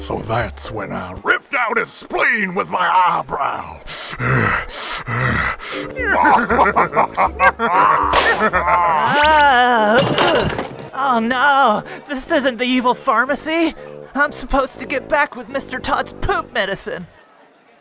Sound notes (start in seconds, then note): 3.9 pant pant; 6.1 laughing